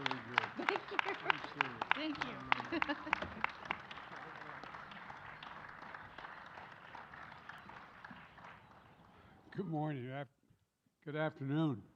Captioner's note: applause